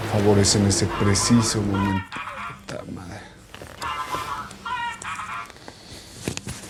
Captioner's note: phone rings